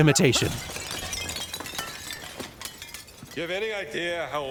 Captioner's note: urn shattering